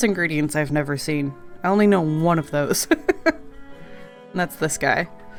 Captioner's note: laughs